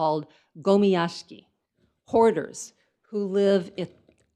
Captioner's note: speaks in foreign language